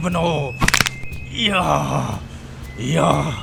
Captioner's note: skull cracking